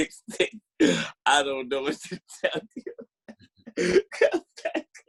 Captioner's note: laughing